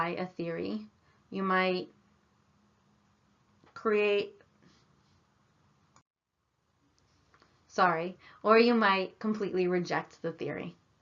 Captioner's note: pause